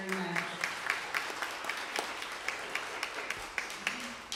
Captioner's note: applause